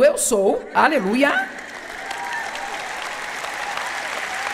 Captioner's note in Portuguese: audiência aplaude